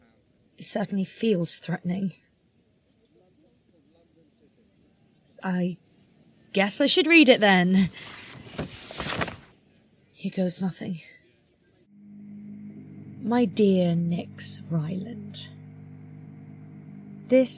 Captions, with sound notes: It certainly feels threatening. I guess I should read it, then. [PAPER UNFOLDING.] Here goes nothing. [OMINOUS HUMMING.] NYX cont. My dear Nyx Ryland,